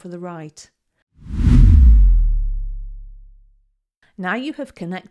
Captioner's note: air whooshing